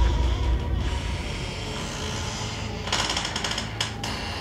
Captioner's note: door creaking